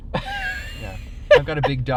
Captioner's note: laughing